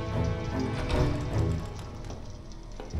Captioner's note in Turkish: Kapı açılma sesi